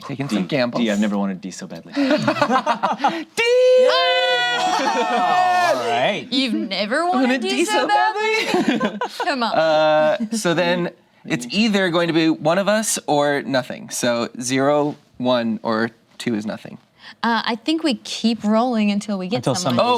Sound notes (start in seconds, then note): 3.7 cheers